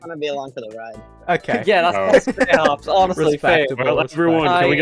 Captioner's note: laughs